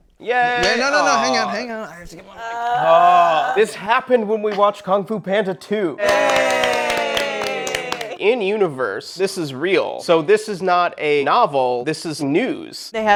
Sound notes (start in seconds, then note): 0.2 cheering interrupted; 2.4 groaning; 6.0 cheering